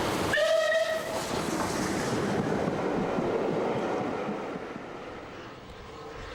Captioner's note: train passes